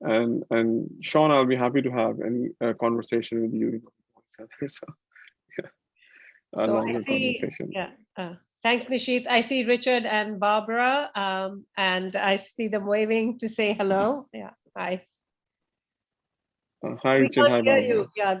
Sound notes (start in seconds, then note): 3.9 speaking faintly